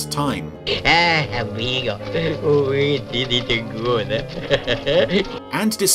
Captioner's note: chuckles